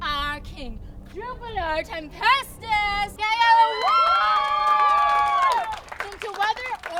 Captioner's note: audience cheers